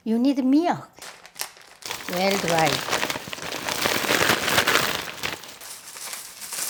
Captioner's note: package crinkling sound